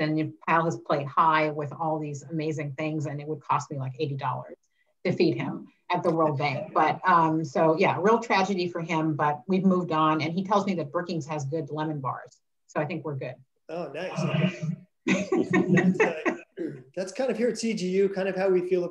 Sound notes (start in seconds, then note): 15.0 laughing